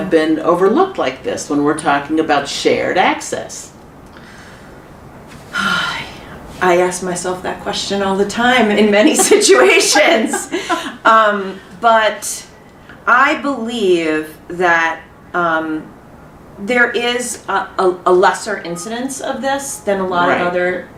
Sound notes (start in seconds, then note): 4.2 sigh